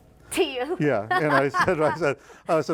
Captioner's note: laughing